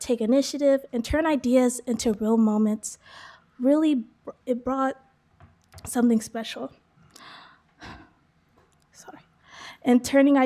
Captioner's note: sigh